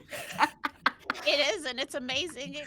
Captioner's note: laughs